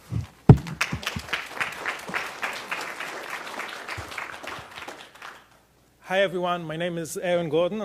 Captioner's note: applause